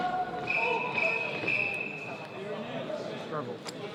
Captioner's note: whistle blowing